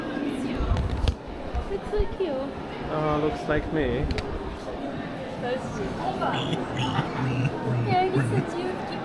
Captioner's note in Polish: dźwięki świni